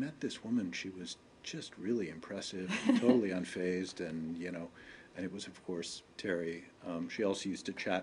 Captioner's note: laughter